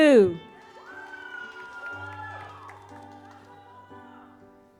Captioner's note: audience applauds